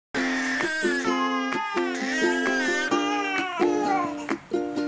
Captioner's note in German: Babys weinen